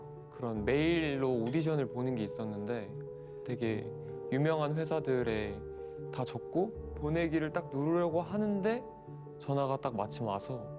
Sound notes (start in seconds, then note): none